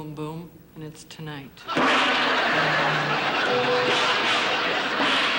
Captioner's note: bangs gongs; audience laughing